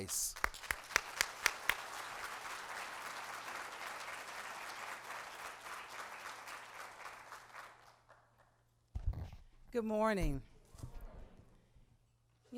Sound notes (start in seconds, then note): 2.7 applause